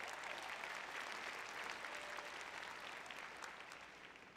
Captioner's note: audience applauding; audience cheering